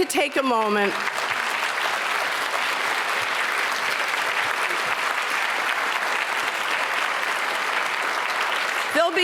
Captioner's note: applause